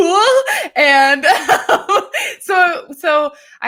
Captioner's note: laughing